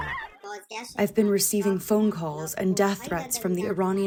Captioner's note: through translator